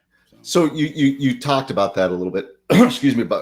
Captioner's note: coughs